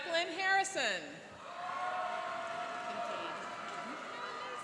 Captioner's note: cheering and applauding